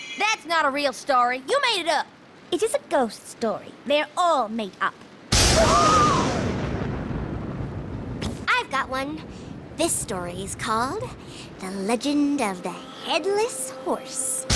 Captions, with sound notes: That's not a real story! You made it up! It is a ghost story. They're all made up. [ Thunder crashes ] aah! I've got one. This story is called "the legend of the headless horse."